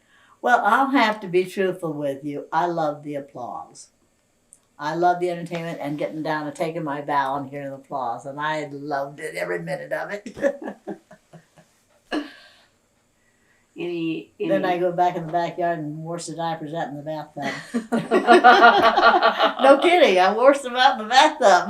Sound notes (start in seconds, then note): 13.6 laughs; 17.4 laughter